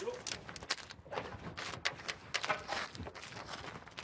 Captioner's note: cracking